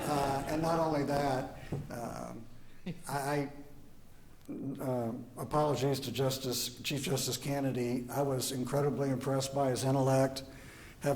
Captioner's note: applause; laughter